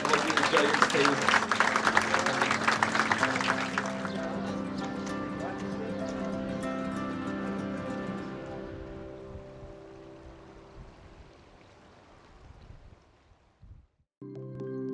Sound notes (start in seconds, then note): 1.7 applause